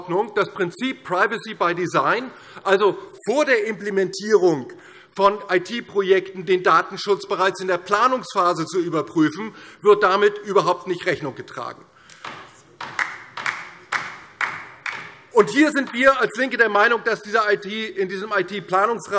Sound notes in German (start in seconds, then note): 12.8 Beifall DIE LINKE